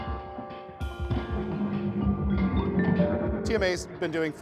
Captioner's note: chimes